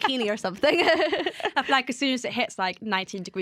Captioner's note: laughter